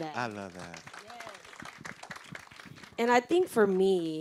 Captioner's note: group clapping